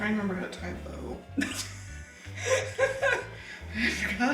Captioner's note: laughing